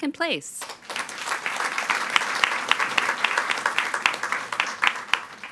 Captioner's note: all applauding